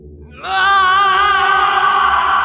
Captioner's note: Rei yelling